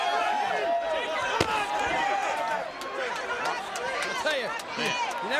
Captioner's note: body thuds